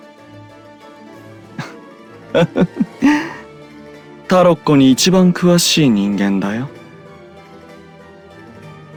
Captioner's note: laugh